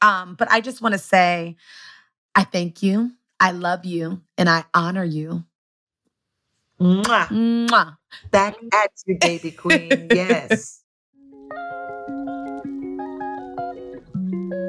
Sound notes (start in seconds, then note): 7.0 blowing kiss